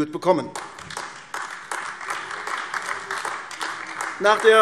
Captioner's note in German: Beifall AfD